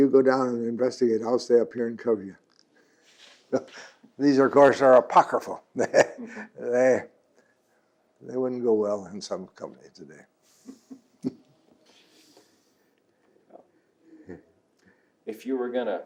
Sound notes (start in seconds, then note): 5.7 laughs